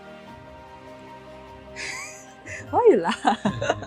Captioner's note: continues laughing